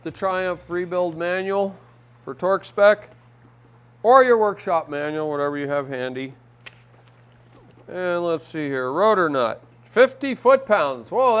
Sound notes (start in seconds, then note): none